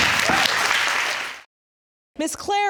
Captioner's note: applause